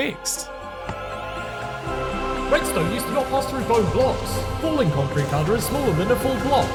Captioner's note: echoing